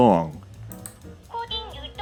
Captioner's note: mouse clicks